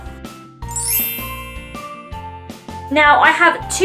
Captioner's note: bell transition sound effect